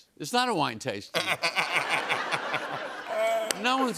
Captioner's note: laughter